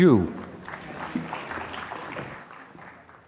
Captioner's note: applause